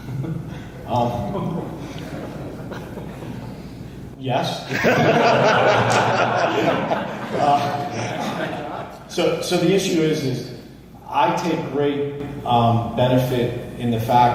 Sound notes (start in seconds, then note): 0.8 laughs; 4.7 audience laughs